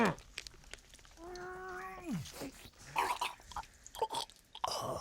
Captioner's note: gurgling, choking noises